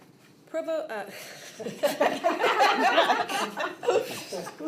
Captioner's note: laughter